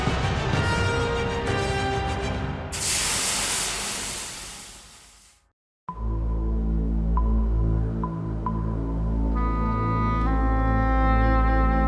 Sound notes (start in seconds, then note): 2.7 steam hissing; 6.0 mysterious music